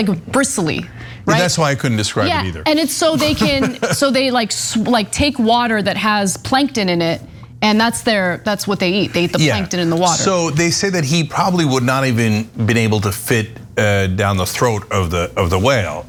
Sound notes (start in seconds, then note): 3.0 laugh